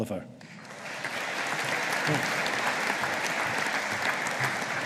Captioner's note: audience applauding